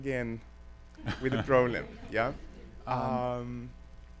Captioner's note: chuckling